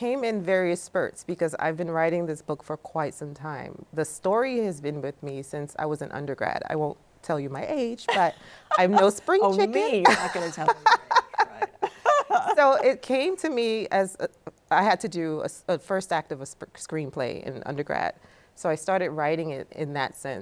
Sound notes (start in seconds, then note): 8.0 laughs; 12.0 laughing